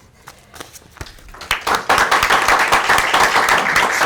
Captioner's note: applause